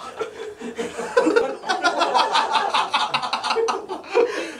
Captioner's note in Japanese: 笑い